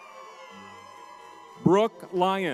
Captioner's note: crowd cheering